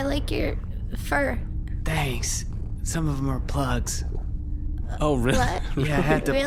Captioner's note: laughing